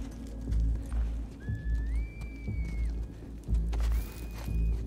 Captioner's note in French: Sifflements